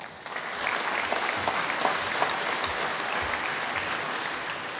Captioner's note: applause